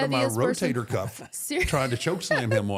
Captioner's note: laughs